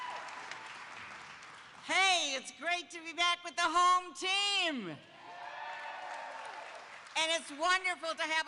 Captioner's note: applause